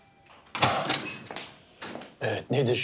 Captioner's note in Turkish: Kapı açıldı